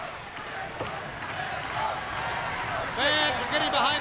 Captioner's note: crowd cheering